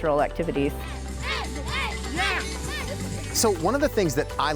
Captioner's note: participants chanting